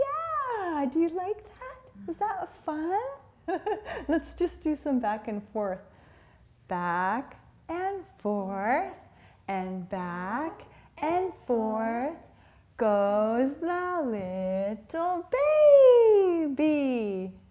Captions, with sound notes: Yeah, do you like that? Is that fun? (laughing) Let's just do some back and forth, back and forth, and back and forth, goes the little baby!